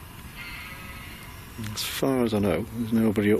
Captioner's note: sheep bleating